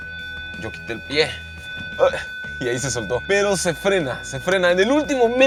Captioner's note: beeping; beeping continues